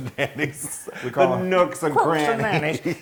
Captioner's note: laugh